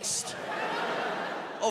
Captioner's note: audience laughs